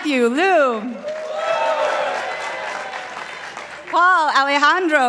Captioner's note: participants applauding